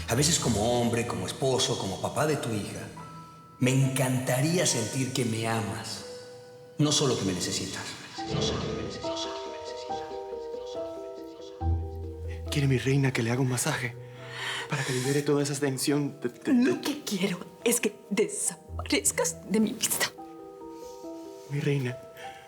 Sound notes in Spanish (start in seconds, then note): 8.5 Con efecto de eco